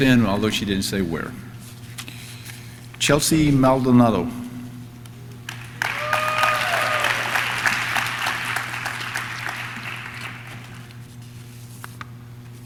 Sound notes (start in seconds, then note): 5.4 audience claps; 5.4 audience cheers